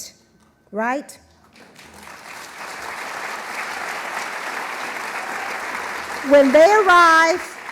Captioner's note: applause